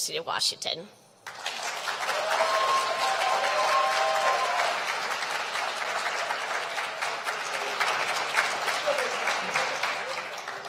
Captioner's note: applause